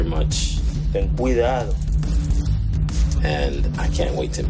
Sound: Papi speaks in Spanish

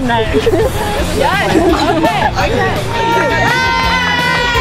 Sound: happy chatter; cheering

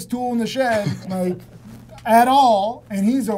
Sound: laughter

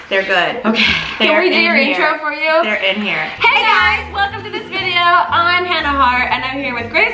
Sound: none

